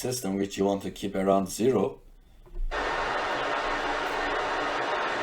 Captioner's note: pink Noise